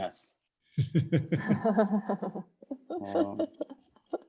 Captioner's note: laughing